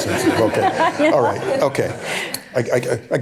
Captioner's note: laughter